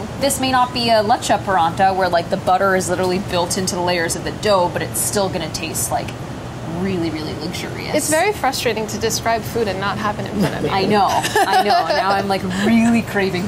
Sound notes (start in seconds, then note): 10.3 laughs